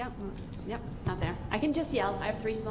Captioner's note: tapping mic